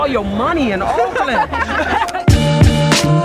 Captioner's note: laughter